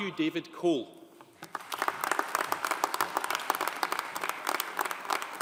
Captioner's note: audience applauding